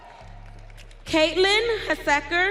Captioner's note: audience cheering